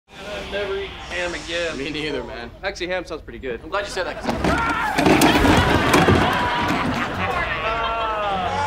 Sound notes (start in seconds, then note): 4.4 screaming; 6.1 laughing